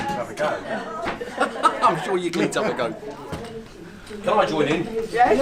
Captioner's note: laughs